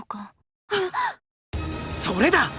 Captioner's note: realization gasp